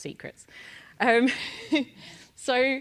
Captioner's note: laugh